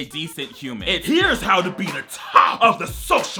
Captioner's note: shouting